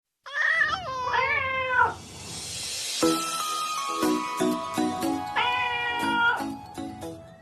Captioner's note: meowing Cats